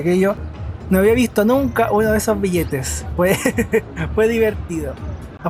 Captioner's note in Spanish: risas